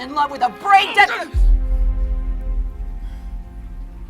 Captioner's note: grunts